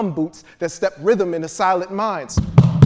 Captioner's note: feet stomping